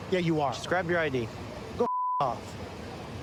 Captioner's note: beep